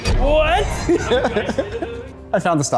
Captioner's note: laughter